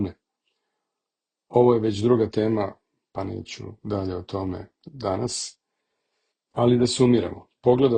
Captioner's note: echoing speech